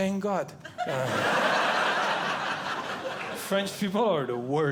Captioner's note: audience Laughing